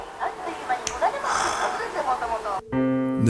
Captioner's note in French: soupire